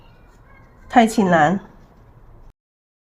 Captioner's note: Cantonese